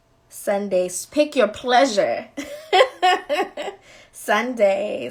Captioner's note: laughing